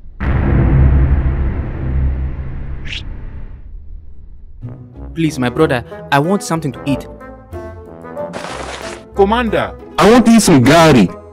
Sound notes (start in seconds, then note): 5.3 ugandan Accent; 9.4 uganda accent; 9.9 earrape